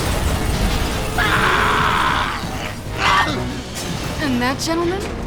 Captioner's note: screams